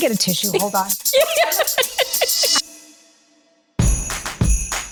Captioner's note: laughing; upbeat music